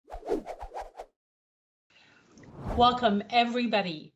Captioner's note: whoosh